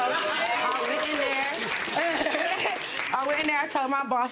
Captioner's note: applause